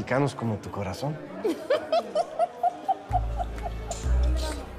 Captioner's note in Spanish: Ríe